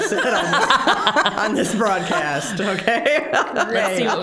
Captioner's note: all laughing